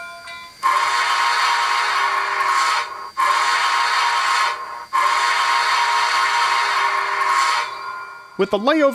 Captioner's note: whistle